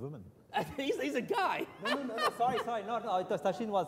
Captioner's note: laughs